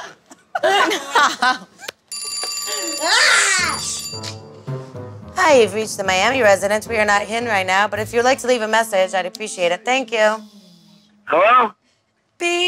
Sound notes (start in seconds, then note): 0.0 laughing; 2.1 phone rings; 3.0 screaming